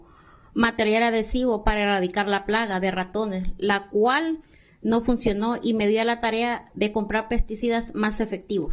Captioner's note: speaking spanish